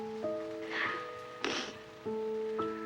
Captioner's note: sniffles